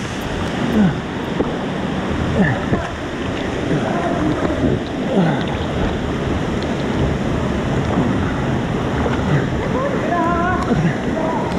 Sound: gushing water

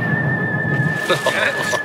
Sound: laughter

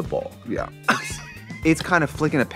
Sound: wheezing

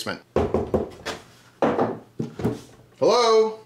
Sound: knocking

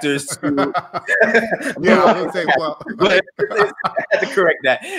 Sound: laughing

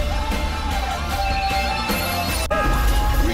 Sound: beeping

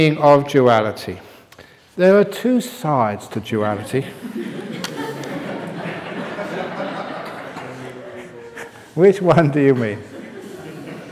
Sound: laughter

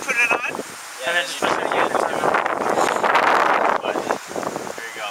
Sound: wind noise

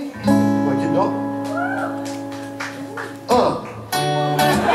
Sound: japanese

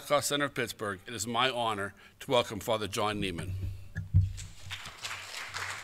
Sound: applause

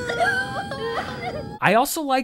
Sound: crying

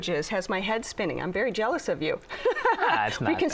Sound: laughs

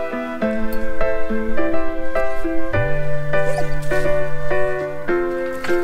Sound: dog whimpers

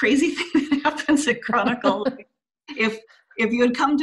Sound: laughs

